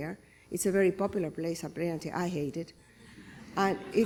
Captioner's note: laughter